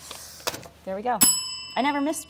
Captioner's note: bell ringing